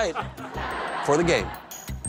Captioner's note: laughter